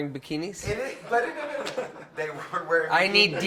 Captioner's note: crowd laughs